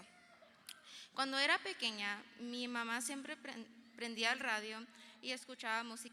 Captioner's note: speaking in foreign language